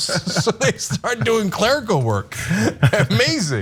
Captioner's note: laugh